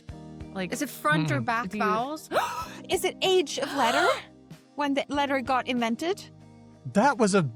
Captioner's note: gasps